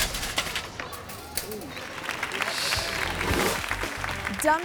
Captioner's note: bike clatters; audience applauding